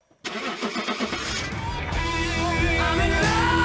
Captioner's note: car engine starting